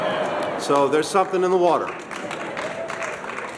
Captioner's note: applause